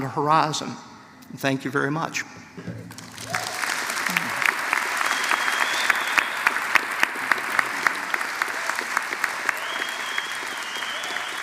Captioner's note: applause